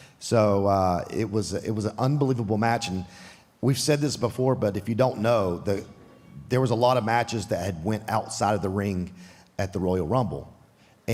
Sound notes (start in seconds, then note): none